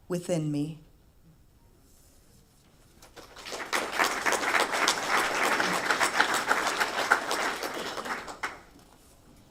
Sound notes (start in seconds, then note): 3.0 applause